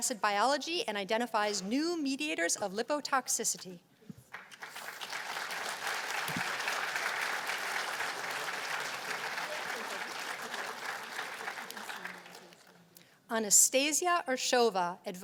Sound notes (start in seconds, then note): 4.2 applause